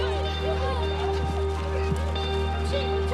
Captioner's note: kids shout excitedly